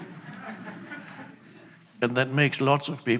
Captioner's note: audience chuckling